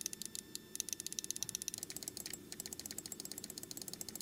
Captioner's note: keyboard Typing